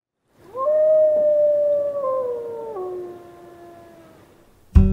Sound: wolf howling

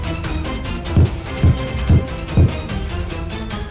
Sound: thumping

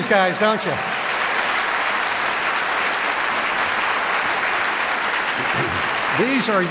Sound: applause

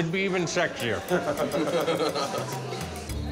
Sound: laughs

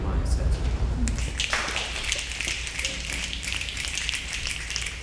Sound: snapping

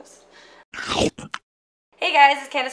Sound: biting sound effect

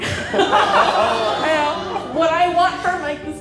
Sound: crowd awing; laughing

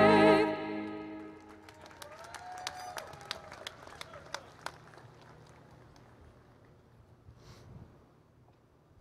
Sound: applause, Cheering

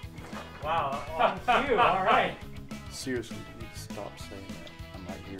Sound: laughter

